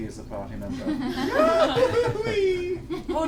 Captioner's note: all laugh; goofy laugh